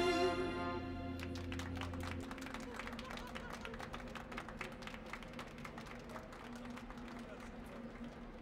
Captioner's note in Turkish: Alkış sesleri